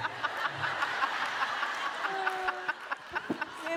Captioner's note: laughing